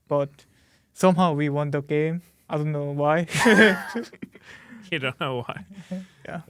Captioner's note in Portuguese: risos